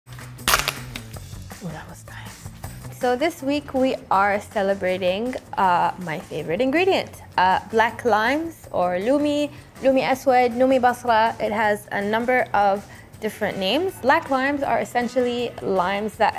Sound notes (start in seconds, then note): 0.4 lime cracking